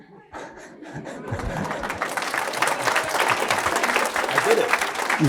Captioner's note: laughs; crowd applause